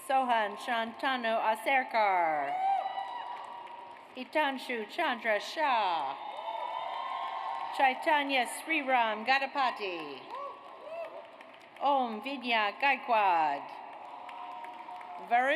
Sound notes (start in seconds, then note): 0.0 audience cheers; 2.3 audience applauds; 5.8 audience cheers; 10.7 audience cheers; 13.8 audience applauds